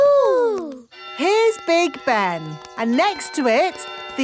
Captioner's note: clock chimes